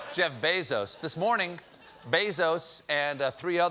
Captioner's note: cheers and applause